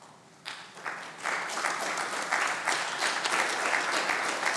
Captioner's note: audience clapping